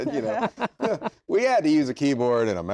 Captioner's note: laughter